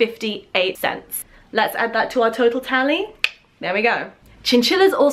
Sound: click

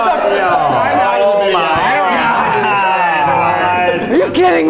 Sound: all shouting

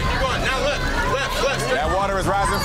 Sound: other contestants shouting

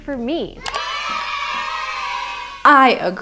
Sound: people cheering

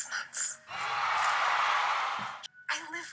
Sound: crowd cheering

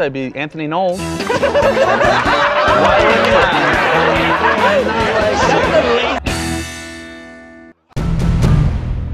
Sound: laughter

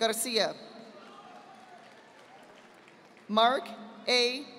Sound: audience applauding

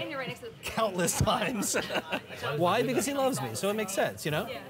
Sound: laughing

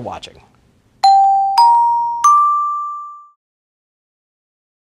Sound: dinging

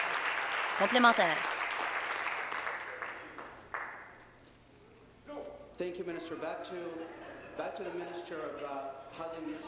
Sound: applause

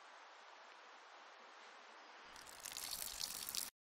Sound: urinating

